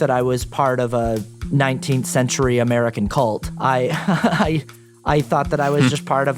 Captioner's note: chuckles